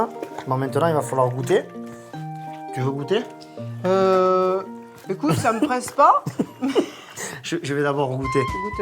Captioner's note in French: rires